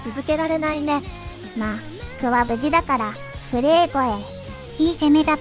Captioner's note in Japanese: 震え声